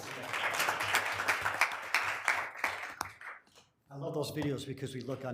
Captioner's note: room applauding